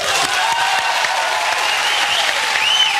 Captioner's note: applause and cheering